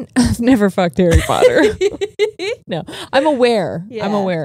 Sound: laughing

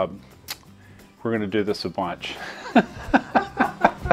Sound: laughter

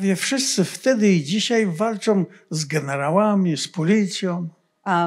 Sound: foreign language

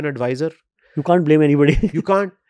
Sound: chuckles

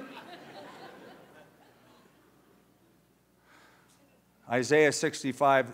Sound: laughter

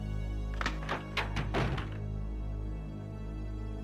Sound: door opening and shutting

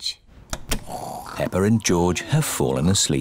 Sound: snoring

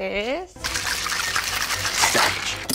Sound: ice shaking; quirky orchestral music

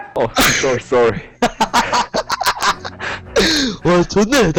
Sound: laughter

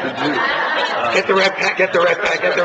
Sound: laughs

